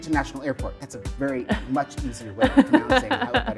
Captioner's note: laughs